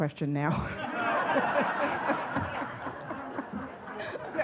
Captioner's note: audience laughing